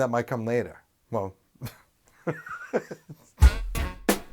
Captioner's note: laughs